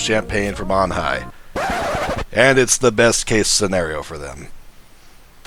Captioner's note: record scratch